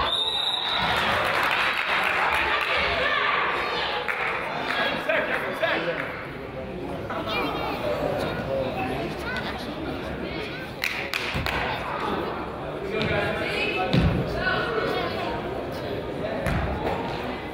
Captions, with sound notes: (whistle blows) (crowd applauds) - Second, second. (crowd chatters) (player claps)